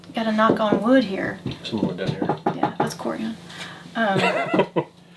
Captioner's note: knocking on wood